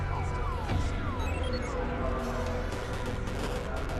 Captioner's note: video game noises